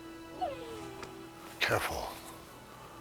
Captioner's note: dog whimpering